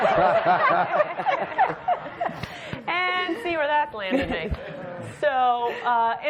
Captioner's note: laughter